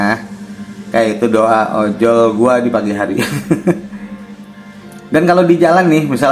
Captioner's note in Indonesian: tertawa